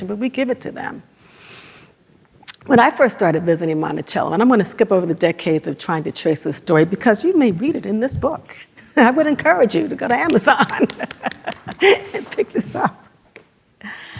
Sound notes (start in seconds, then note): 8.8 laughs; 10.3 audience claps; 10.3 laughs